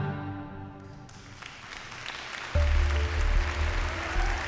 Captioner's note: song ends; applause and cheers